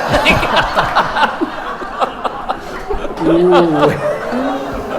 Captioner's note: audience chuckles